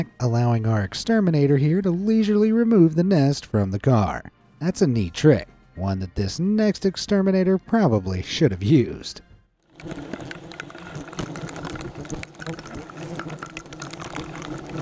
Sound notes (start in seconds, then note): 9.7 loud sound of hornets